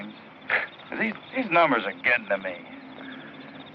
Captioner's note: scoffs